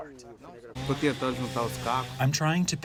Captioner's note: through translator